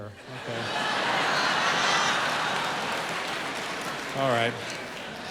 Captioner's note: audience laughing